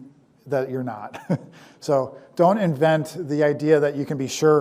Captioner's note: laughs